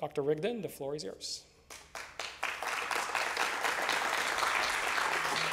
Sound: applause

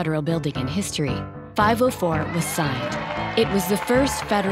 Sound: clapping and cheering

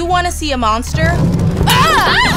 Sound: screaming

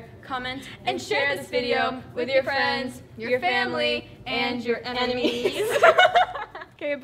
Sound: laughs

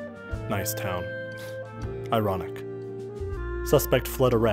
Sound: scoffs

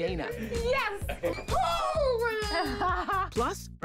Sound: laughs

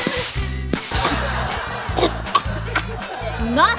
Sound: laughter; coughing

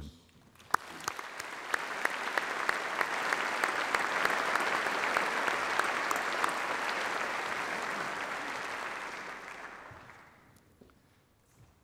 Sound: applause

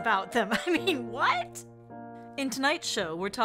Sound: chuckles

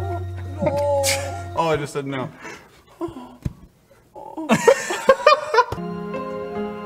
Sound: sad noises; makes more sad noises and all three laugh

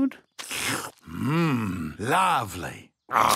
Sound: slurps

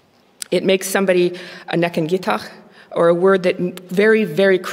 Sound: non-english speech

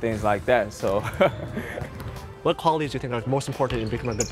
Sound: laughter

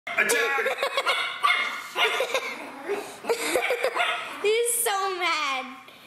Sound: laughter; barking

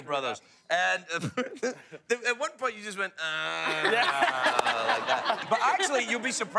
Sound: laughs

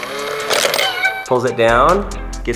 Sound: gears turn; coin falls

